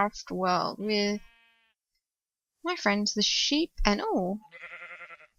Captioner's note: baaaa